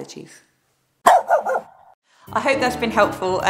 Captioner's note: barking